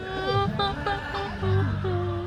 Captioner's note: crowd crying